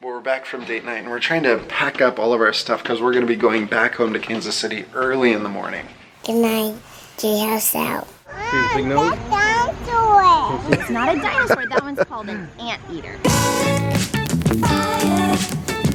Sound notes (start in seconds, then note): 10.3 laughs; 15.7 lively pop music